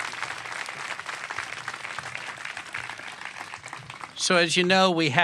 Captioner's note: applause